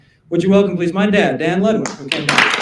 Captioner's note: applause